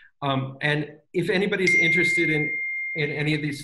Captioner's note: phone chiming